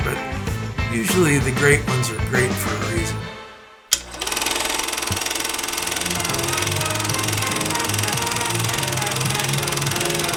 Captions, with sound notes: but usually the great ones are great for a reason. (film turning) (energetic jazz music)